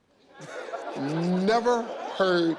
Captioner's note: audience laughs